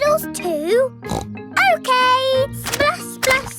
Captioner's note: snorts